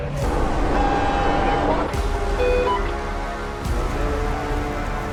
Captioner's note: ship horn blasting